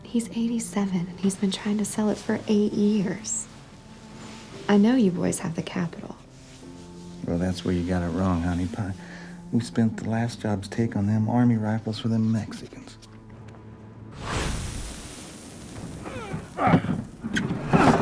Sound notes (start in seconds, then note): 14.2 grunting